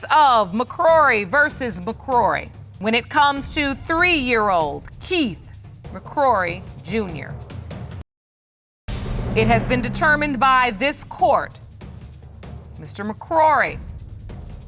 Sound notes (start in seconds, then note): none